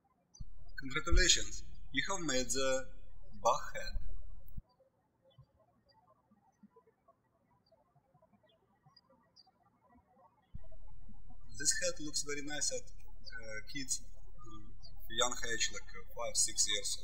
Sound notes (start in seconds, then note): 0.0 birds chirping; 4.9 birds chirping